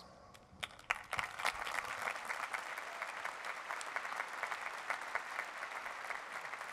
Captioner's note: applause